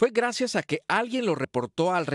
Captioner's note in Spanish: HABLAN EN INGLéS